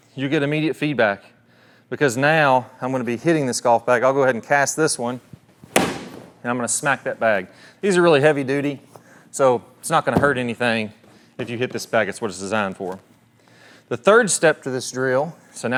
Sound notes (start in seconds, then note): 5.8 club thudding; 10.1 bag thudding